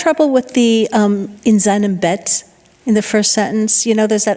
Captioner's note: speaking in foreign language